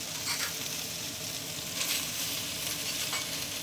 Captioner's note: steak sizzling